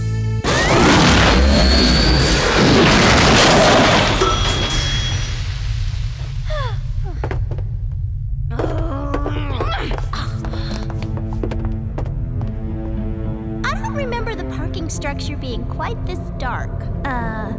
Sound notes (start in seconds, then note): 0.4 screaming; 3.4 crashing; 4.0 bell ring; 6.4 sigh; 8.5 grunting